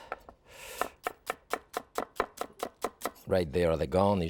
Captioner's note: knife tapping